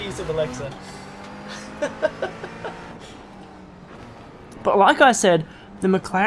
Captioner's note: laughs